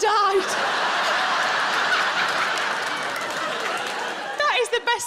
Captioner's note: audience laughs